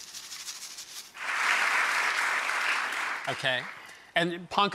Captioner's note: audience claps